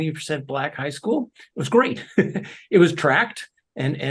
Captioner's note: laugh